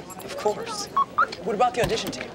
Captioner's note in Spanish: pitido